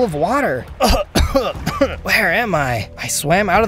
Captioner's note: cough